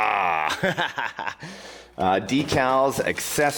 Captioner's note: laughing